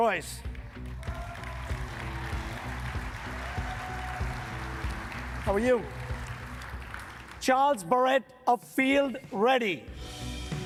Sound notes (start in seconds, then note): 1.0 upbeat music; 2.6 audience clapping and cheering; 10.4 upbeat music